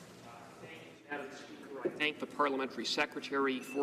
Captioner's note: speaking French